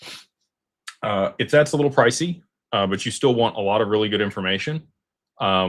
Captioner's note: snorts